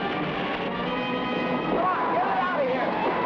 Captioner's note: fire crackles